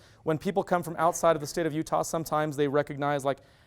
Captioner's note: none